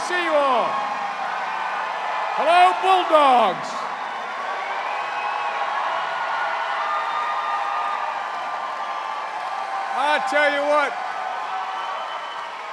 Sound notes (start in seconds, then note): 4.0 cheers and applause